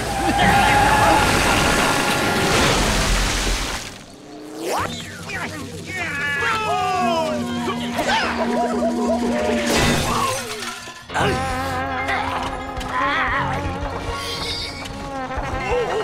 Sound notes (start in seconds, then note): 5.3 grunting; 9.8 groaning